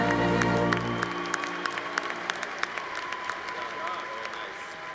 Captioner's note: congregation applauding